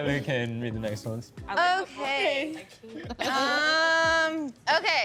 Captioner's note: others chattering